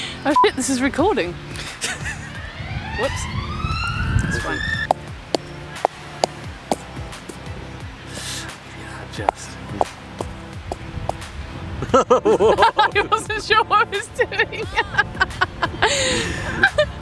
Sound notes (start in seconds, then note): 8.1 gasps